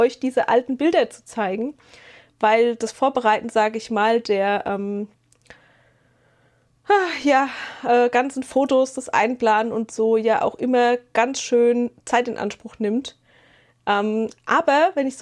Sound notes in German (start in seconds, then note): 7.2 seufzt